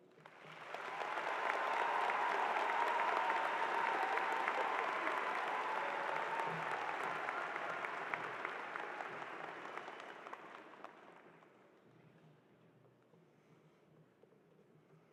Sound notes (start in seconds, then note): 3.5 cheers and applause